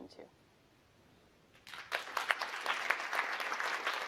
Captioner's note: applause